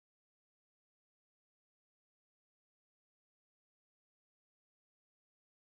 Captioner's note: none